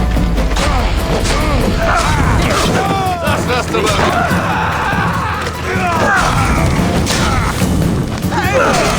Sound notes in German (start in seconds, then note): 3.3 stöhnen; 3.8 schreien